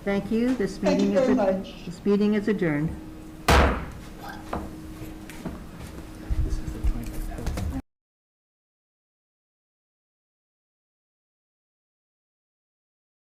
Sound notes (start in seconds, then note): 3.4 gavel slams